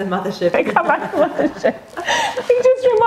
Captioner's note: laughs